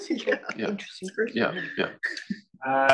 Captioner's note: laugh